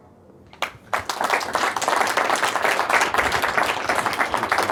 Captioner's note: audience applauding